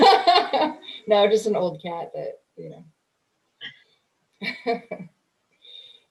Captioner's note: laughing; chuckles